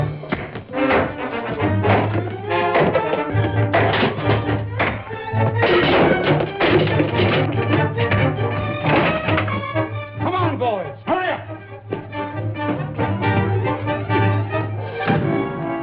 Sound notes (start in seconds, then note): 0.2 pipe banging; 5.4 cans clattering; 5.6 punch thuds; 8.3 thuds